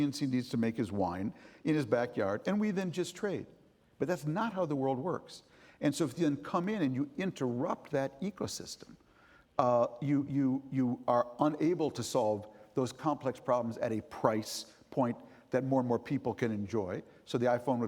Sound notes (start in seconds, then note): none